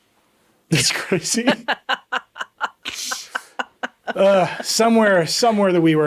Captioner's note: laughing